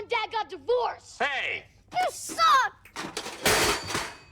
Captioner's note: shouting